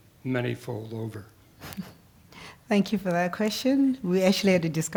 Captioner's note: laugh